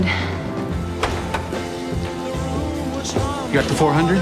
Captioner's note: door opens